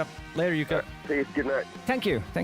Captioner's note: on phone